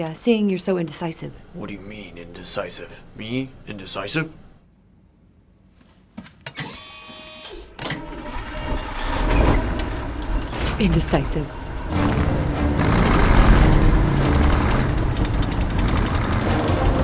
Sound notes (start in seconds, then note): 6.7 whirring; 8.3 engine rumbling; 12.5 suspenseful music